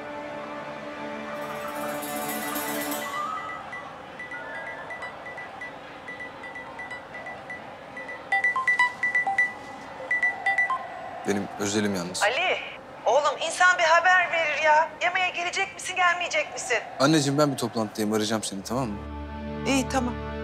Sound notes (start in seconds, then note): 2.2 phone rings; 18.9 thriller music